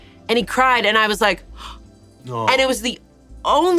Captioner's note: gasps